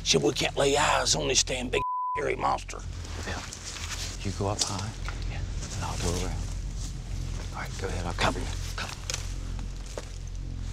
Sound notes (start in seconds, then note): 3.1 whispering